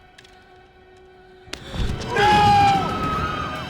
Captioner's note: screams